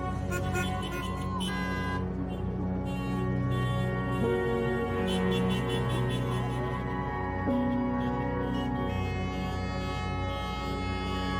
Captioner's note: car horns honking